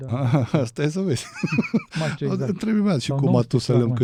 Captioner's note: laughter